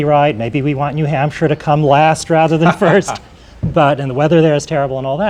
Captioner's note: laughter